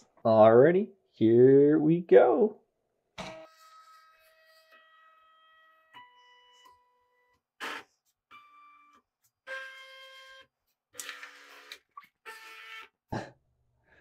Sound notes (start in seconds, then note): 2.6 sounds of Drawing